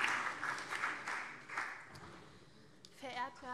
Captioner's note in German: Beifall CDU und vereinzelt SPD